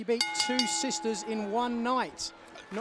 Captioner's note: bell ringing